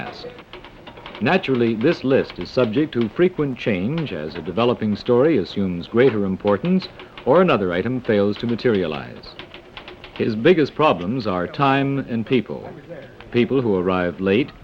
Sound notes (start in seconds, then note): 0.1 machines hum; 5.7 machines whir